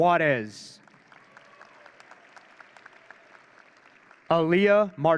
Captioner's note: audience cheering